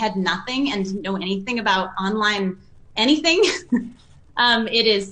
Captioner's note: laughs